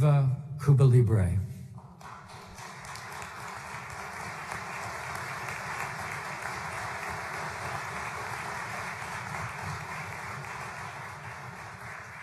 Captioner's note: applause